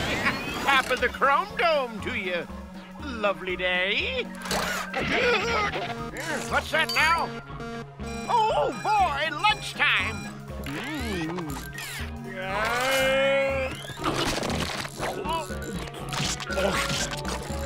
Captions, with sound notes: Top of the chrome dome to you. Lovely day. [gasping] What's that now? Oh boy, lunchtime! [moaning]